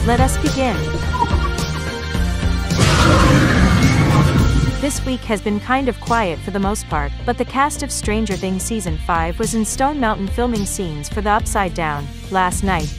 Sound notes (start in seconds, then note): 0.7 demogorgon cries